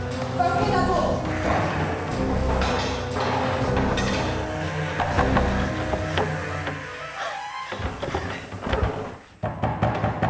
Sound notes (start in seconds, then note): 2.5 dramatic music; 5.8 door banging